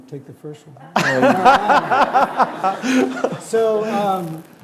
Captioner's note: laughing